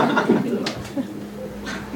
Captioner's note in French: rires